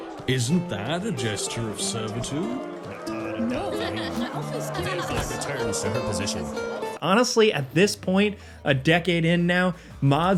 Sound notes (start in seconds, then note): 3.3 townspeople chatter